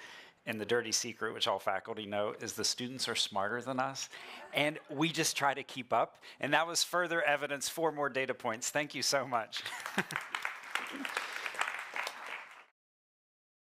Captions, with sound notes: And the dirty secret which all faculty know is the students are smarter than us. And we just try to keep up. And that was further evidence for more data points. Thank you so much. [CHUCKLES] [APPLAUSE]